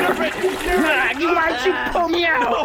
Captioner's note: splashing stops